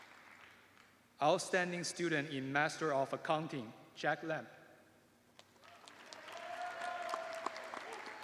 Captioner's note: cheers and applause